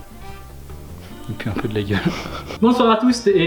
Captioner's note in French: rires